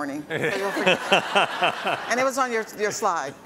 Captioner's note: everyone laughs